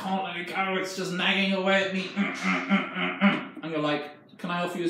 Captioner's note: groans